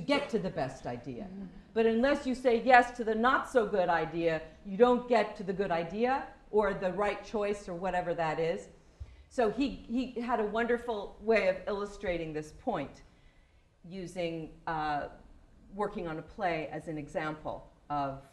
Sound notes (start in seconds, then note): none